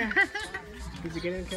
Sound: laughing

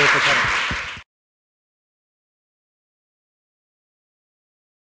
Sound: applause

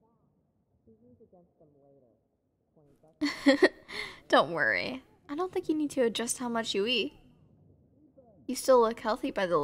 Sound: soft laugh

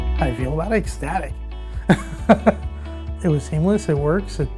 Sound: laughing

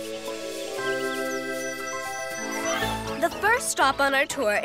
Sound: birds chirping

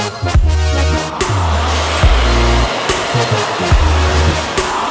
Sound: equipment whirring

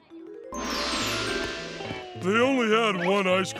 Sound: none

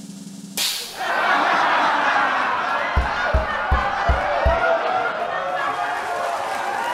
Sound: crowd laughs

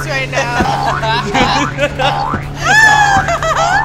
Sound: cast laughs

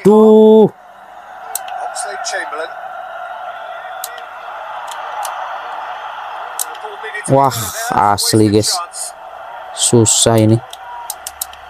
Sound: applause

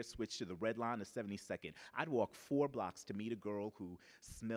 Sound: none

